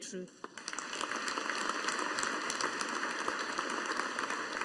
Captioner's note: audience applauding